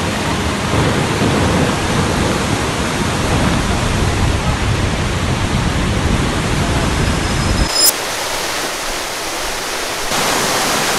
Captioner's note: waterfalls ambience